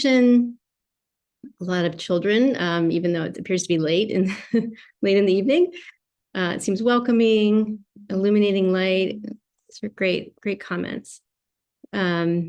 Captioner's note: laughter